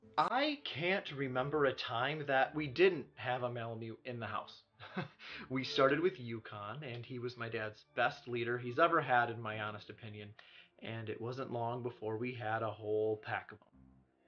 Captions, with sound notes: - I can't remember a time that we didn't have a malamute in the house. (laughs) We started with Yukon and he was my dad's best leader he's ever had in my honest opinion. And it wasn't long before we had a whole pack of 'em.